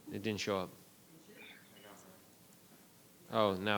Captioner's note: speaking faintly